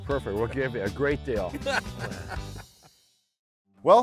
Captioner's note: laughing